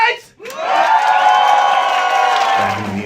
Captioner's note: cheers and applause